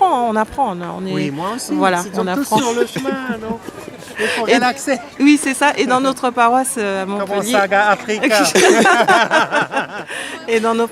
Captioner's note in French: rires